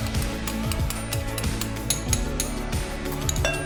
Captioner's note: spoon clanking against glass bowl